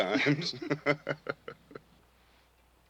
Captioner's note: laughing